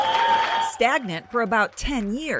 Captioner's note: workers cheering